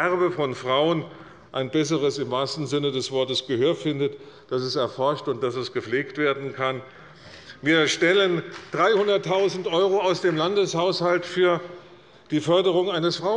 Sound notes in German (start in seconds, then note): 8.4 Beifall bei Abgeordneten des BÜNDNISSES 90/DIE GRÜNEN